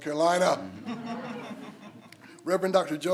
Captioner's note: some attendees laughs